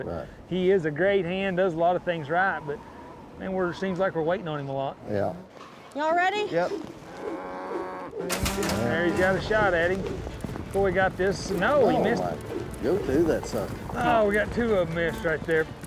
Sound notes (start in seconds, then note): 8.2 cow moos, gate clanks